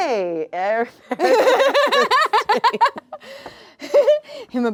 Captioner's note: laugh